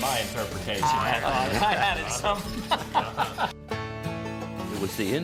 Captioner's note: laughs